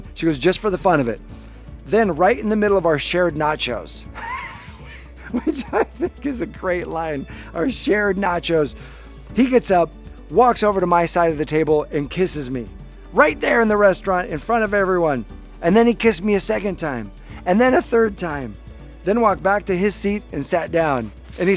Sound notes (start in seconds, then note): 4.2 laughs